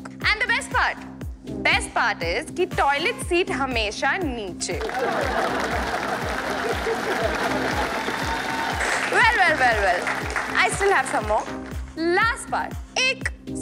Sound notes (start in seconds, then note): 4.8 Audience laughing, clapping